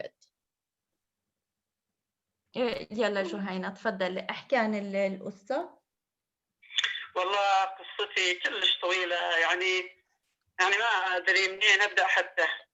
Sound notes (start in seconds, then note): 0.6 speaking in another language/ Interpretation